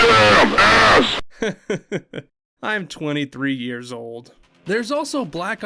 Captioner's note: laughs